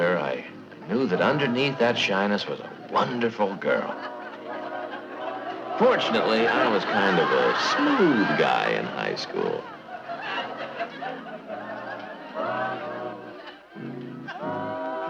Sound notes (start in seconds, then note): 3.8 audience chuckling; 9.5 audience chuckling; 10.8 quiet music continuing